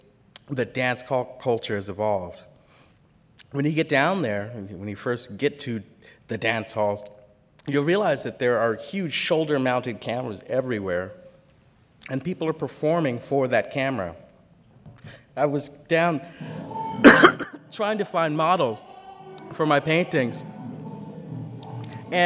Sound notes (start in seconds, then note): 17.0 cough